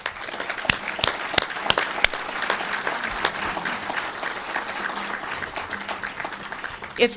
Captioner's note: applause